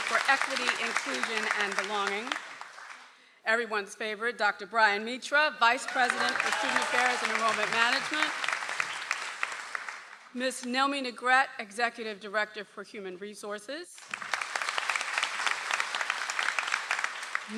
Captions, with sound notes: for Equity, Inclusion and Belonging. Everyone's favorite. Dr. Brian Mitra, Vice President of Student Affairs and Enrollment Management. (audience applauds) - Ms. Nelmy Negrete, executive Director for Human Resources. (audience applauds)